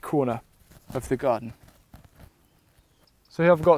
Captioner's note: birds singing